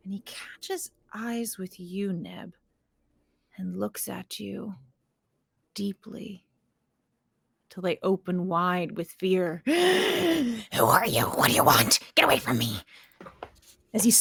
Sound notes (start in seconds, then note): 9.6 Pivam gasps